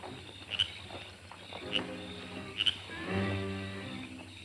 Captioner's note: frog croaking